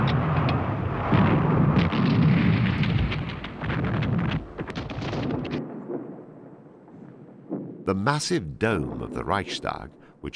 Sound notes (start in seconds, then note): 1.6 heavy artillery booming